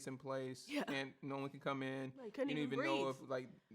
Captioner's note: hiccup